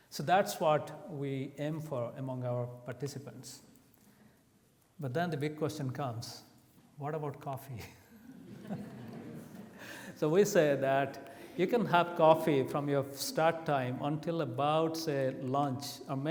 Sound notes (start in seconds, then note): 8.2 laughs; 8.3 audience laughs